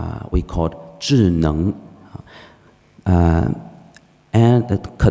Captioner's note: speaking foreign language